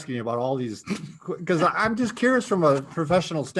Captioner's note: laughs